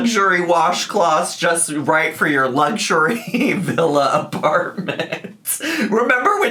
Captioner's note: laughs